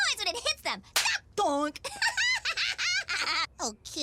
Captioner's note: laughs